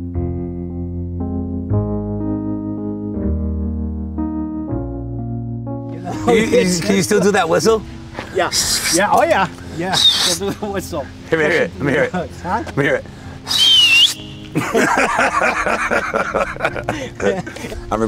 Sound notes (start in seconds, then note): 13.4 whistles; 14.4 laughing